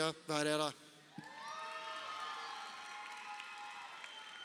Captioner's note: crowd cheering